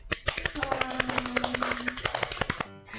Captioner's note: clapping